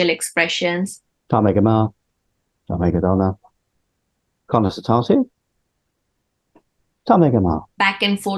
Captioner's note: Speaking Irish